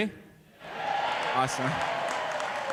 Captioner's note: cheering